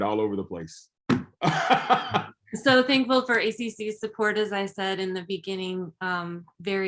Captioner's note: chuckles